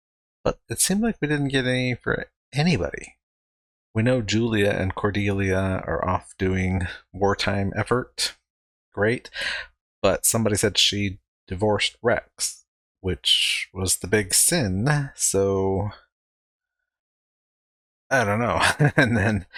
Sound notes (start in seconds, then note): 18.1 chuckling